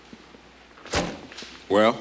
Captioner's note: door thuds